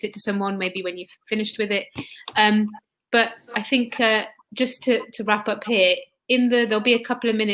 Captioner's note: erm